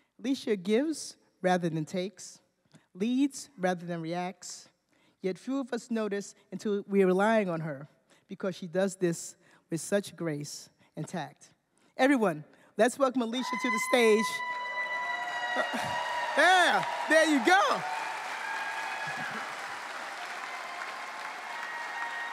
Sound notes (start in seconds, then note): 14.5 cheering; 19.3 cheering